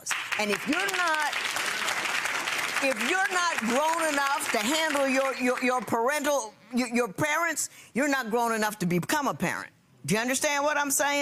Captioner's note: clapping